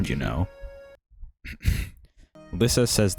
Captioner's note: clears throat